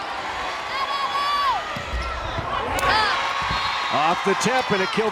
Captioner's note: crowd and players cheering